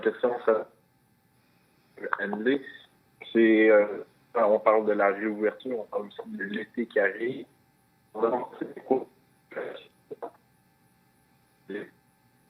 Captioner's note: speaking French